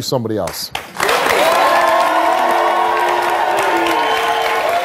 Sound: audience cheers

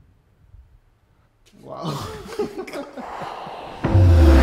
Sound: more laughing

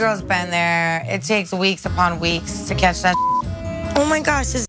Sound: beep

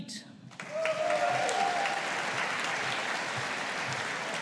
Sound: audience applauding

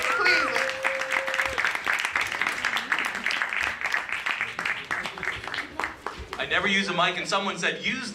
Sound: applause

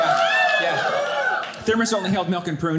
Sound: audience cheering

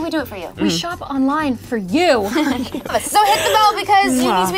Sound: laughing

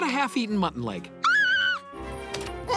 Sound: screaming

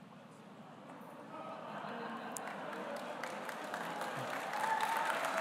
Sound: audience applauding

